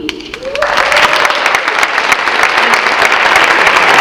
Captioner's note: audience clapping